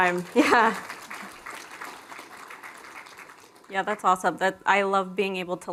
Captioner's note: applause